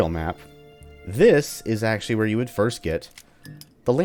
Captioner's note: lantern hums